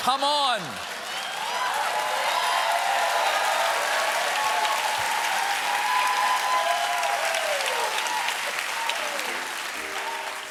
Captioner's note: cheers and applause